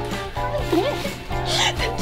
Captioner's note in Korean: 웃음